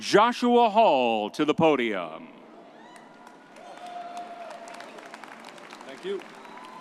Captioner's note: audience cheering